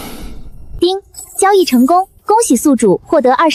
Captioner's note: ding!